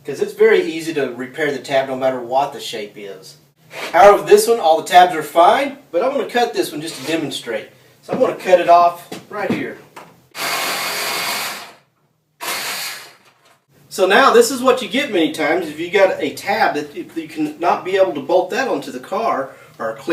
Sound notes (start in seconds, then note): 10.6 grinding machine